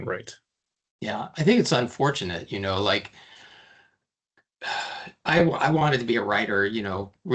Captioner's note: sighing